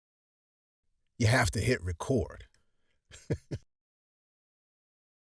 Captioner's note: laughs